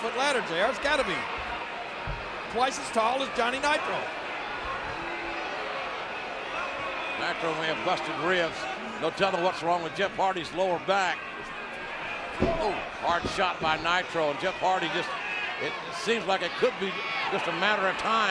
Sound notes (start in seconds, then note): 4.9 audience cheering